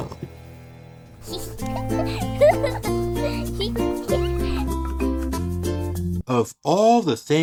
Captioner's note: laughs